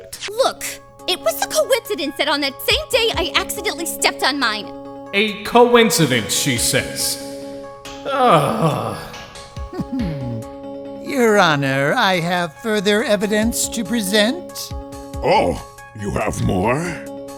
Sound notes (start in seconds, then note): 8.0 groan; 9.6 amused chuckle